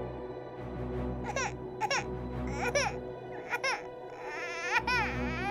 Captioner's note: baby crying